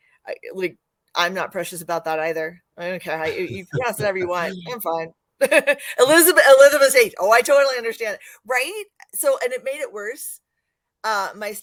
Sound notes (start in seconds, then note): 3.2 laughter; 3.2 laughs